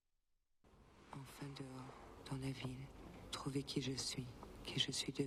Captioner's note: speaking french